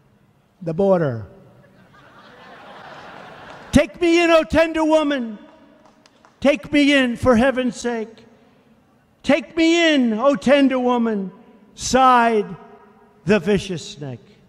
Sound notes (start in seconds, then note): 1.6 crowd laughs